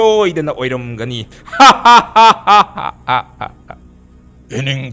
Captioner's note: laughing